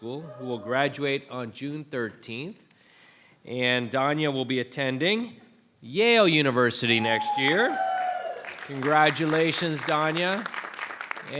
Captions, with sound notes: who will graduate on June 13th. And Daania will be attending Yale University next year. (audience cheering) (audience applauding) Congratulations, Daania. (audience applauding)